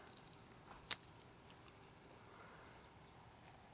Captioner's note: stem snaps